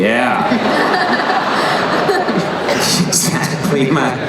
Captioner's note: laughing